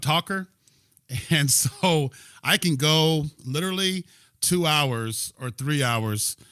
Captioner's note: laughter